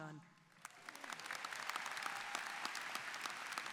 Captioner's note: applause